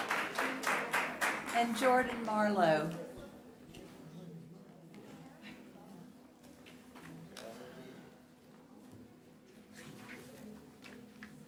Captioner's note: applause